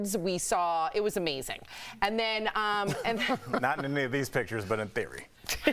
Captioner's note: laughter